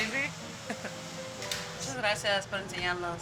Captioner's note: chuckles; foreign language